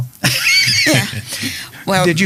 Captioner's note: laughing